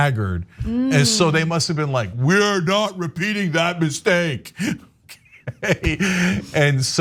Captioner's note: laugh